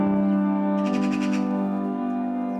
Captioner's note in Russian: звуки сороки